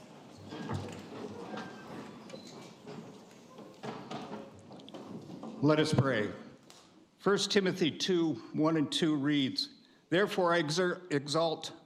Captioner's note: banging gavel